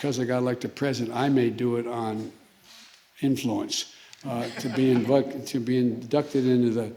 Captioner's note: laughter